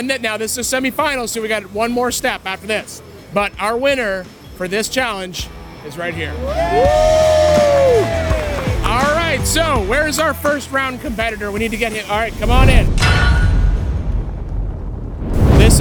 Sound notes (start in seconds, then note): 6.2 all cheering; 14.5 logo thumping